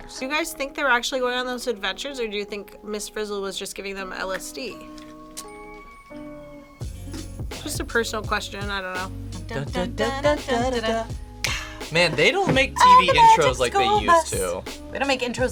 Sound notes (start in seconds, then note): 5.4 light music; 9.9 humming; 12.3 snapping fingers